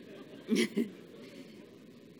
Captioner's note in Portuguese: Risos